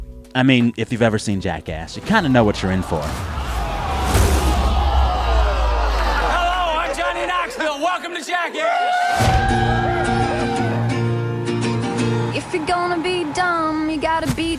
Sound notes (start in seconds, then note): 5.1 soundbite of tv show, "jackass"